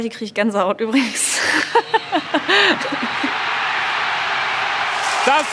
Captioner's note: laughter